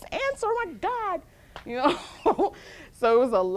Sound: laughs

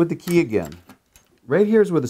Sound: keys jingling

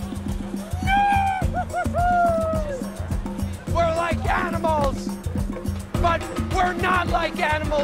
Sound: neighing excitedly

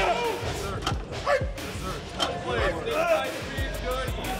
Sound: group chatter

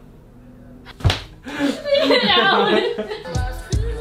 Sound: laughter

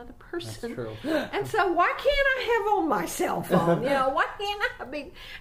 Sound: laughs; shouts abruptly

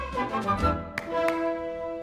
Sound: two claps

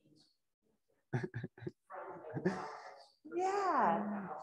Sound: giggles

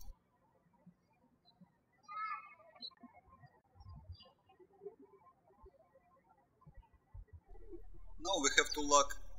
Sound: birds chirping

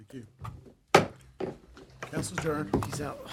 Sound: gavel banging

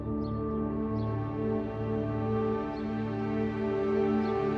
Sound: birds chirping

